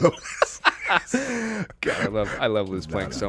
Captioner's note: laughing